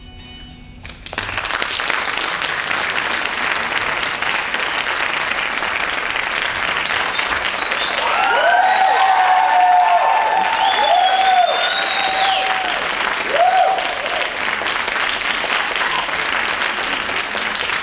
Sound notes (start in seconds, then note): 1.1 audience applauds; 8.2 audience cheers